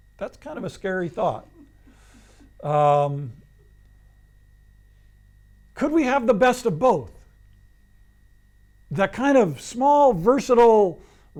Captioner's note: laughs